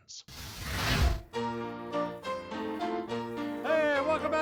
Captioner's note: flames whooshing; upbeat piano music